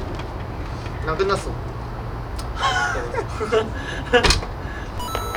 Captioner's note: laughing